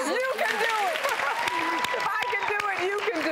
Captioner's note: applause